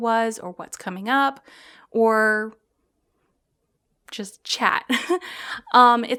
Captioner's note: giggles